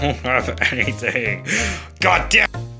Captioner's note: Big Bowser Gasp